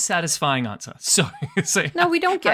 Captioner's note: laughs